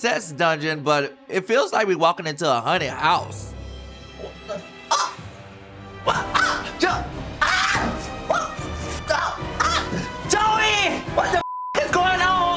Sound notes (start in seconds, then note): 6.0 tense music; 7.4 screaming